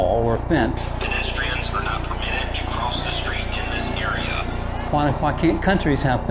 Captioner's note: police radio chatter